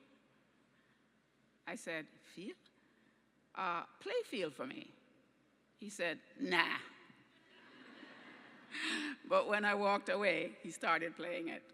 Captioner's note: laughter